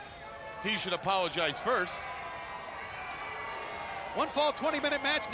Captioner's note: crowd cheering